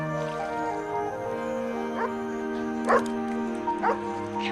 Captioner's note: dog barking